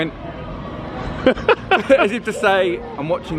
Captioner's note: laughing